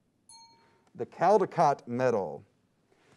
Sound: time dings

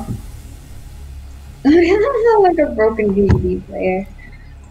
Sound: giggles at own joke

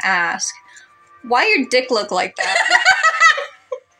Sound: laugh; cackle

